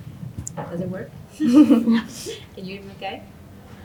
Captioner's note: laughing